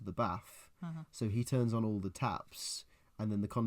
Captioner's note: agreement noises